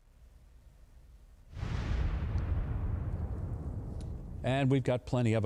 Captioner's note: bomb explodes